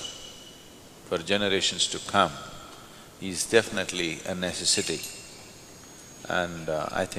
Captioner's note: rings the bell